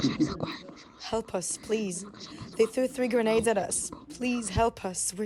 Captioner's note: through translator